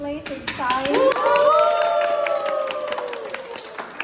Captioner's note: cheers and applause